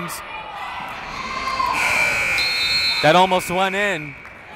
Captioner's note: buzzer blaring